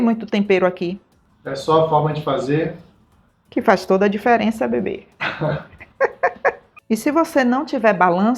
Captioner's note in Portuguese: risadas